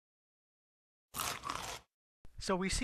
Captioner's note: chomp